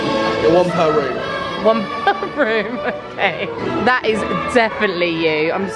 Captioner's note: laughing